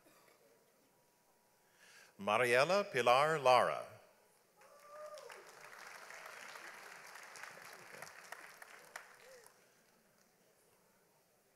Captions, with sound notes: Mariela Pilar Lara. (audience applauds)